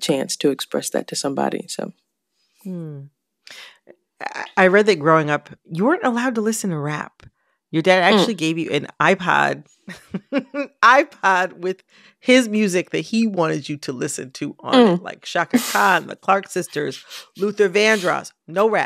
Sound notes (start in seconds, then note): 9.9 laughter